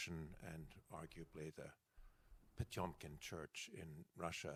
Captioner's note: speaking foreign language